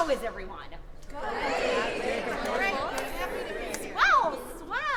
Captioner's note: chatting affably